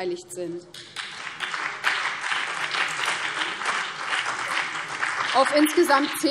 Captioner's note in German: Beifall BÜNDNIS 90/DIE GRÜNEN und CDU